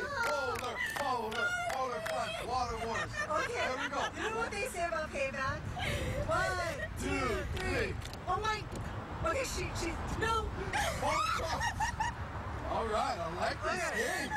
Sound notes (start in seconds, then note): 2.4 laughter; 8.2 laughter